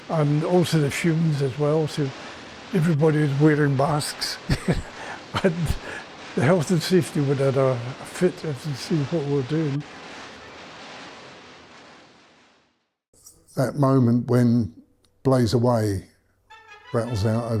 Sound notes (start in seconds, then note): 4.5 laughs; 10.0 bikes droning